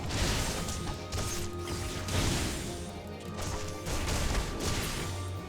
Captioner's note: gunshots